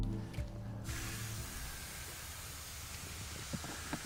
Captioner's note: water spraying